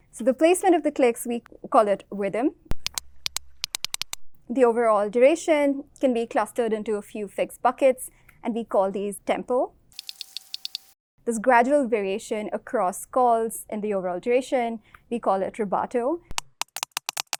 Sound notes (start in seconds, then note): 3.2 fast clicks; 10.0 clicks